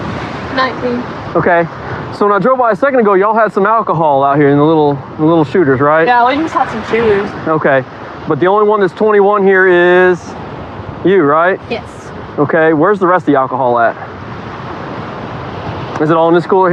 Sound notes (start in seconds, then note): none